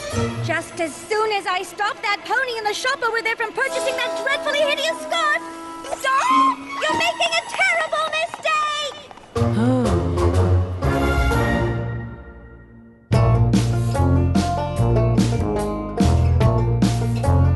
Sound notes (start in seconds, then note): 9.4 sighs